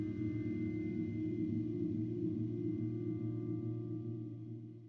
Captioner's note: none